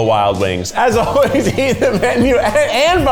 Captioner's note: laughs